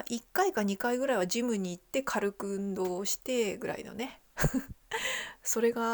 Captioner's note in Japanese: 笑い